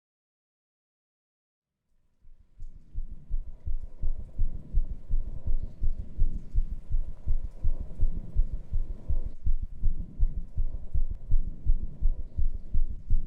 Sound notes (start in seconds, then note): 8.4 rapid heart beats